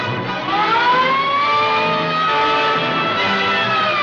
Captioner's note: siren wailing; dramatic music